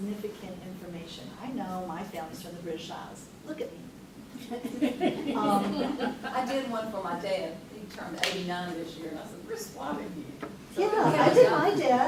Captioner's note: others laugh; everyone laughs